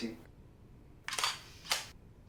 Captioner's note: shutter clicks